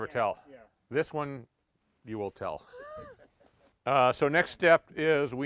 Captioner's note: laughs